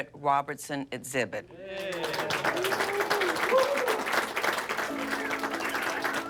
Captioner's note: cheering and applause